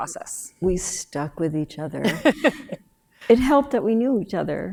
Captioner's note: laughs